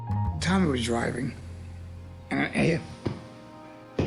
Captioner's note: thumping